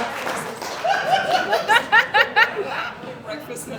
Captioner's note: laughter